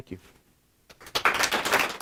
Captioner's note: applause from audience